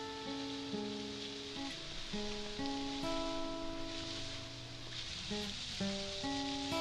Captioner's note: warm pensive music; water splashing